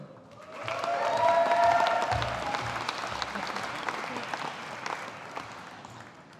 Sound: audience applauding

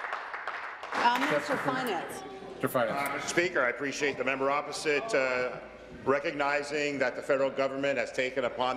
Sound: applause

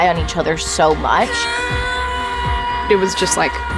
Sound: shouts

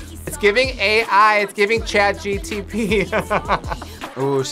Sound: laughs

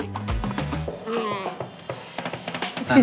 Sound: grunts

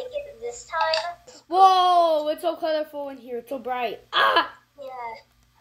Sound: yells in pain

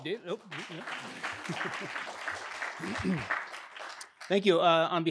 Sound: audience clapping

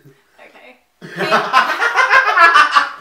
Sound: laughing

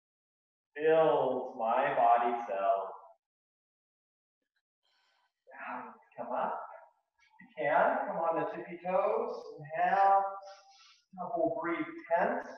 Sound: inhaling twice

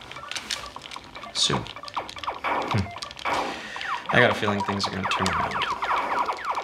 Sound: short laugh

